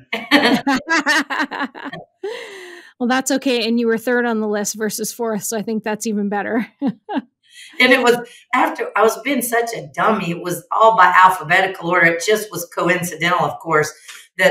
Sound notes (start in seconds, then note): 0.0 laughs; 6.8 chuckles